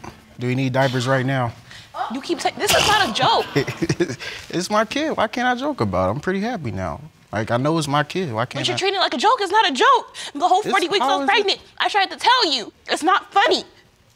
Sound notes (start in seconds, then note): 2.0 laughing